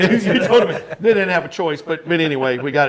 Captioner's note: everyone laughing